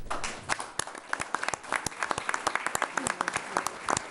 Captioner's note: applause